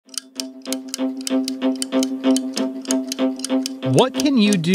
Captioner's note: clock ticking; dynamic music